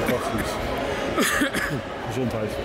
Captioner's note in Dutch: gekuch